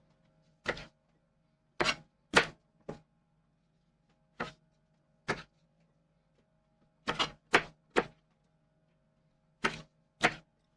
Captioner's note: knife cutting